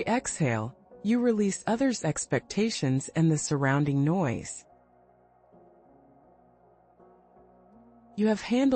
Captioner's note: pause